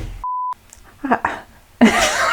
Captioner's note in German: lacht